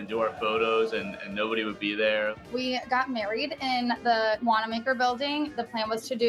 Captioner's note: chants